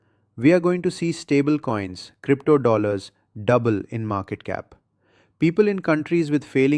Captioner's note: excited